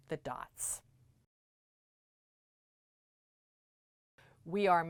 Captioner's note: no Sound Present